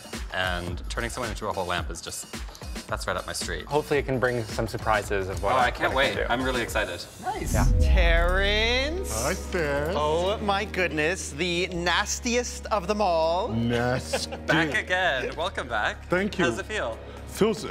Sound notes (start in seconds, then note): 13.9 chuckling